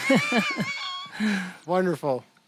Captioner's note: both chuckling